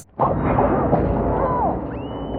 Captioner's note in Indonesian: Jeritan